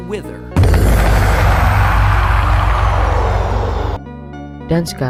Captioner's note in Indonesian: suara Wither